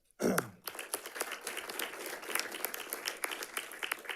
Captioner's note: audience clapping